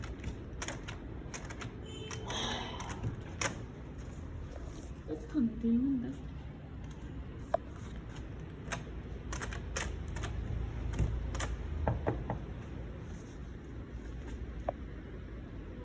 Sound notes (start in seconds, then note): 11.8 knock knock